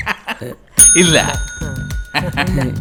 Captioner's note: rings office bell